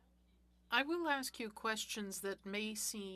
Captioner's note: speaking French